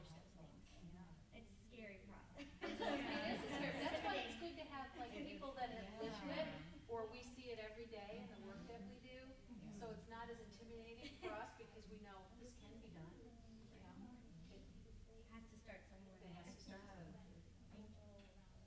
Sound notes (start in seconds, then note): 2.4 group laughs